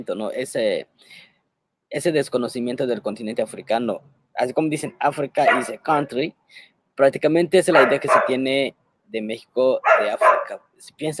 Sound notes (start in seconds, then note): 5.5 dog barking; 5.5 speaking Spanish